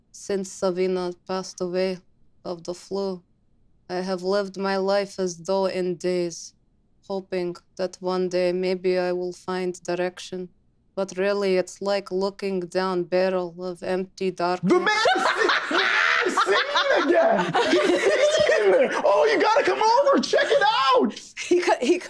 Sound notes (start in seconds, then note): 14.7 Isabella cackling; 17.1 group laughing